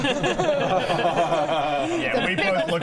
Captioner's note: uneasy laughter